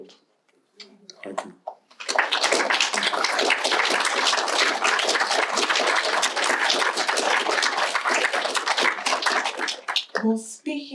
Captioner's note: applause